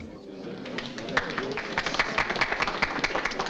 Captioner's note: crowd clapping